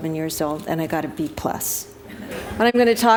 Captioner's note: laughter